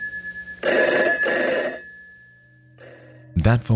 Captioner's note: phone rings